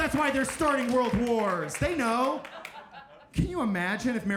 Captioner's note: audience laughing